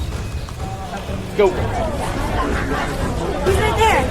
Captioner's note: crowd chattering